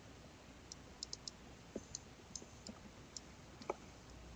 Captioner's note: mouse clicking